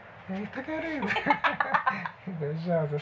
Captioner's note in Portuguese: risadas